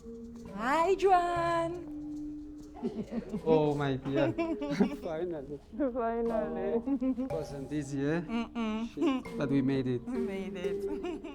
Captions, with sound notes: Hi, Joan! [SOFT CHUCKLES] -Oh, my dear... finally. -Finally. -It wasn't easy, yeah? -hmm hmm -But we made it. -We made it.